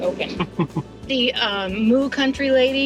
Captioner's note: chuckling